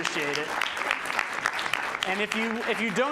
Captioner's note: applause